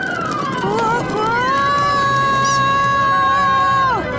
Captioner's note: screaming